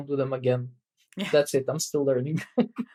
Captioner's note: <Laugh>